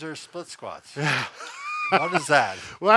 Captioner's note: laughs